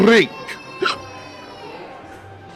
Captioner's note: hiccups